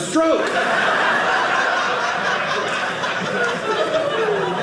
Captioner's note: audience laughing